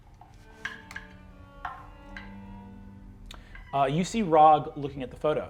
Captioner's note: die rolls